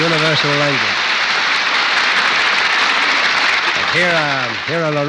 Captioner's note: applause